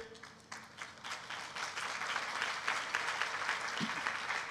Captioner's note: applause